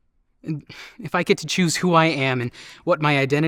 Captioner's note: none